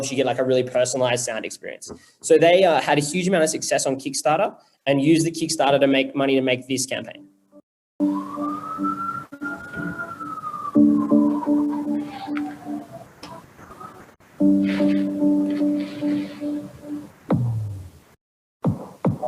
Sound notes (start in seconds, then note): 10.4 siren rings